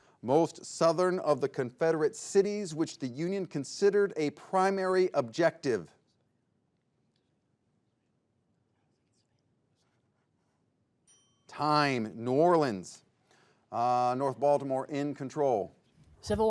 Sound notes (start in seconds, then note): 11.0 bell dings